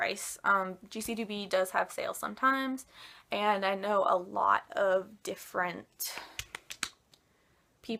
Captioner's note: me slapping my thighs in the background